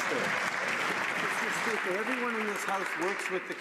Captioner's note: some Applause